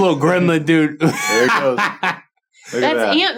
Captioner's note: laughing